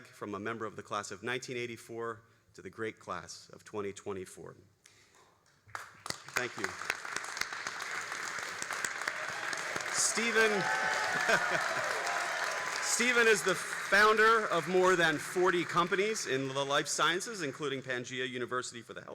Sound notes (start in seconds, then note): 5.9 all applauding